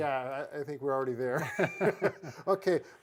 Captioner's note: both laugh